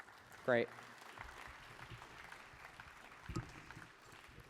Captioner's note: applause